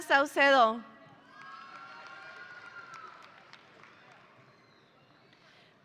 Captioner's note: audience applauding